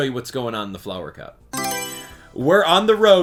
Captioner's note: Mario Selection Sound